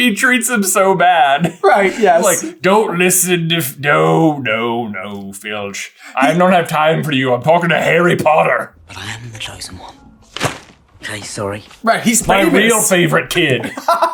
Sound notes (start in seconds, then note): 10.3 thwap